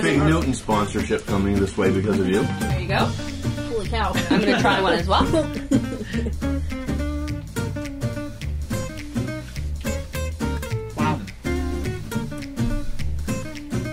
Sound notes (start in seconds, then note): 4.1 laughing